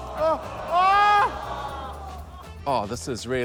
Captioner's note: audience exclaims